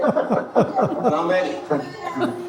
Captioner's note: family laughs